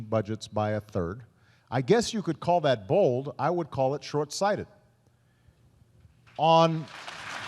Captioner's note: applause